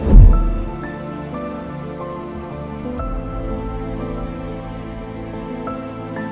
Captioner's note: water bubbling; suspenseful music